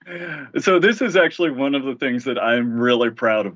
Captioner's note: laughter